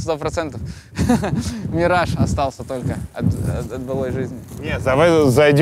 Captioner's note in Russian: смеется